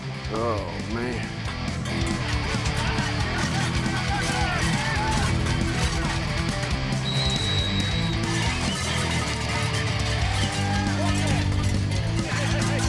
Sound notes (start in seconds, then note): 2.4 upbeat music; 3.7 people chattering